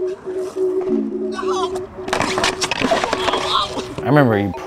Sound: man cries out

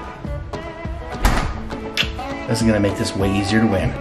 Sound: kissing

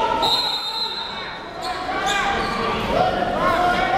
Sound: whistle blows

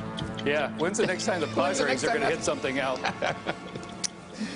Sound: laughter

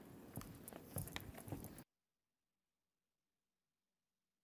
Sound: footsteps thumping

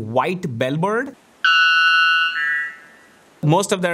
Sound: bird screeching

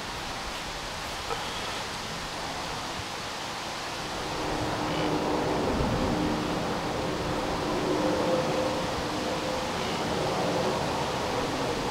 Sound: wind

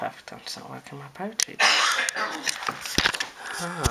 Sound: mommy coughs as she wakes up!

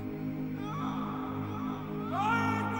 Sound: Frodo wails

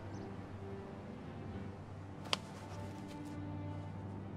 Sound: none

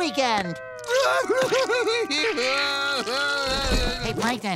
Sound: crying

